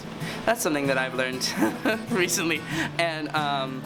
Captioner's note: laugh